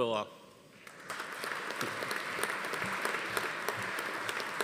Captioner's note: audience applauding